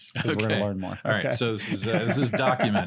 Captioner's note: laughs